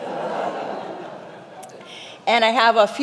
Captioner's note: congregation laughing